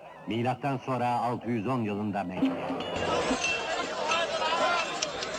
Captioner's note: indistinct chattering; lively music